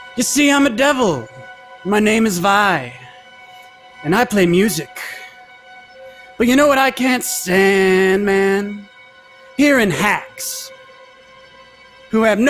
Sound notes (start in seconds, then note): none